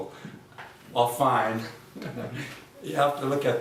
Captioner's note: chuckling